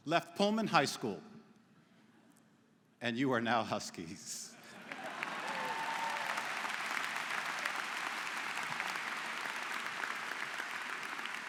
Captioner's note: �applause�